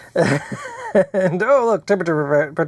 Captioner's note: laughs